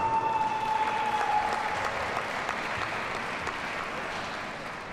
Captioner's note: audience cheers and applauds